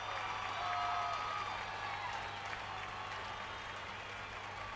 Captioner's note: crowd cheering